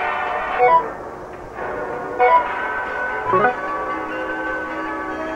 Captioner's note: electronic chirping